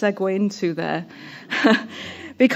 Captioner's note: laughter